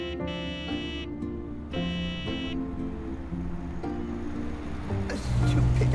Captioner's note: horn honking; gentle music